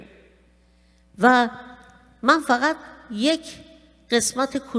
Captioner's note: speaking persian